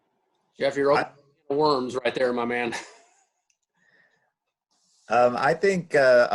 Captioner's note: laughs